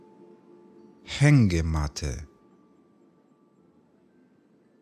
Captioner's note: german